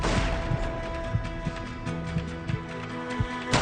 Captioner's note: guns firing; heart beating; guns firing continuously